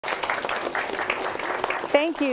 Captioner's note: audience applauding